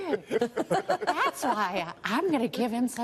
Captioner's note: laughter